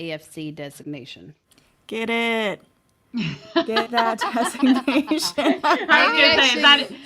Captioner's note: laughing